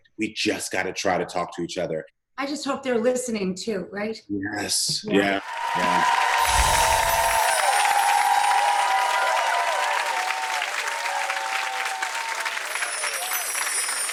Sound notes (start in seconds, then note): 5.8 audience clapping